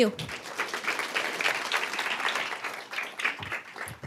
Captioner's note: applause